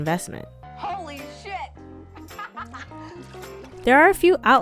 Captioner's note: laughs